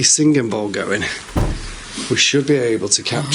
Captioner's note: door knocks